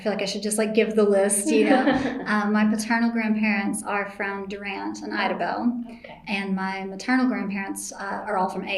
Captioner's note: laughter